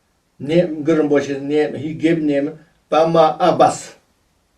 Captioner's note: tibetan